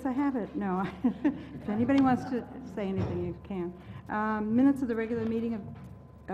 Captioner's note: laugh